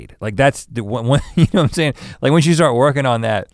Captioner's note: chuckles